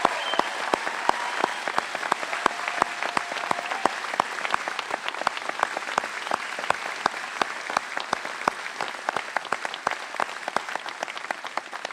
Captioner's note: cheers and applause